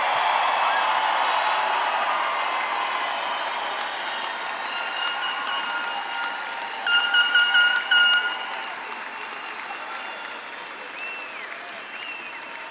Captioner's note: applause